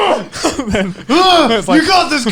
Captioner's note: yelling